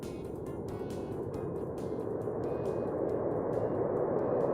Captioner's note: wind blowing